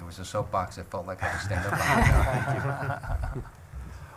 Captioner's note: laughing